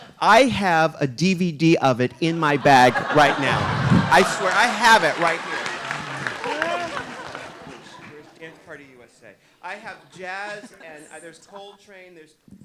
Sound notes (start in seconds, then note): 5.9 audience applauding